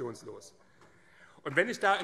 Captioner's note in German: Beifall